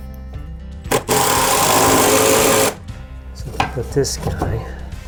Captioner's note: drill whirs